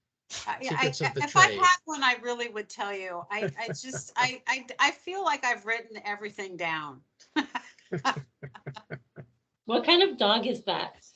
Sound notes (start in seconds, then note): 3.3 laughing